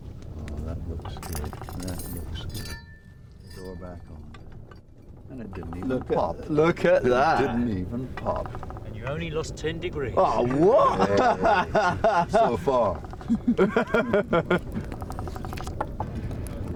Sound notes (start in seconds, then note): 13.2 laughs